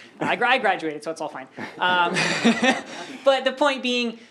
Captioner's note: laughter